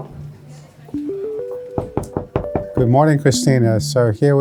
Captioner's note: knocking